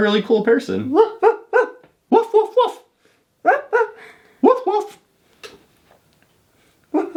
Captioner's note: imitates barking